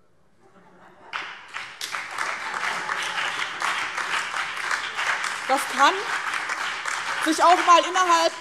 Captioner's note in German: Beifall BÜNDNIS 90/DIE GRÜNEN